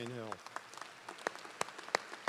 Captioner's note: applause